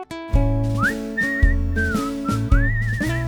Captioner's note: whistle